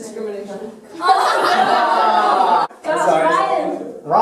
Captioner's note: laughter